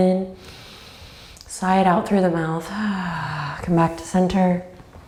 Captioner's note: sighs